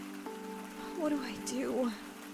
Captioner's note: phone video plays